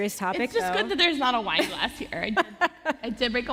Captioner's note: laughter